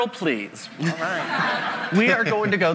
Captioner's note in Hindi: हँसी